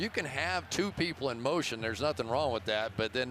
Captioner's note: crowd chanting, "defense"